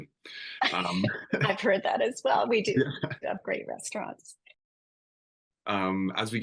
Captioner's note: laughing